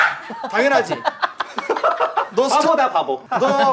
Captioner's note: laughing